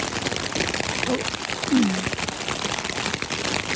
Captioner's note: laughs